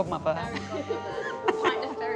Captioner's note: laughing; upbeat music